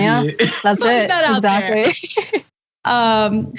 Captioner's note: laugh